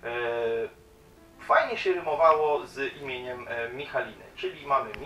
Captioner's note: in polish